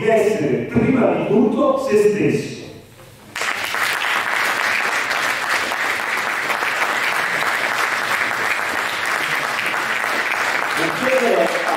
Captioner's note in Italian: Applauso